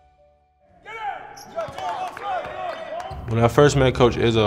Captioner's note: people cheers